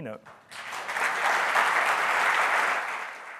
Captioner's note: audience clapping